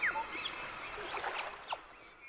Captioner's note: birds chirping and calling